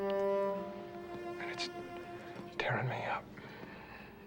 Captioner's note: voice cracking